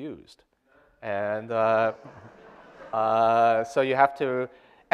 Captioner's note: audience laughter